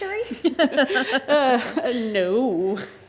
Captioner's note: everyone laughs